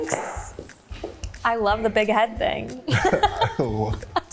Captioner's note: laughs